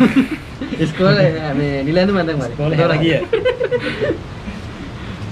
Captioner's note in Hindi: हँसते हुए; हंसते हुए